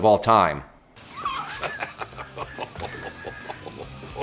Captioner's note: laughter